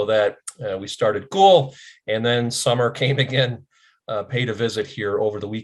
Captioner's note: laughs